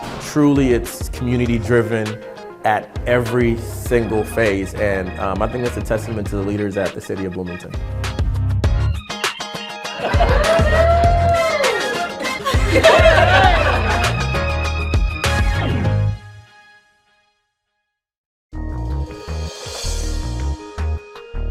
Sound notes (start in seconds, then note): 7.8 upbeat music; 9.8 crowd laughing